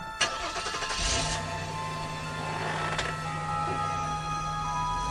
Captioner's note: engine revving